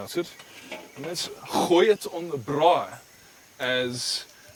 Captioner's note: speaks in foreign language